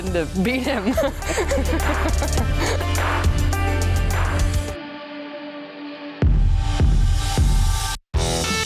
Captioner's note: laughs; guitar music